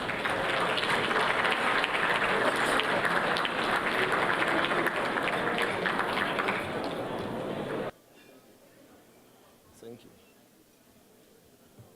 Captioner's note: applause